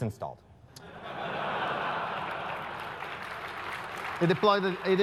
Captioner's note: laugh; applause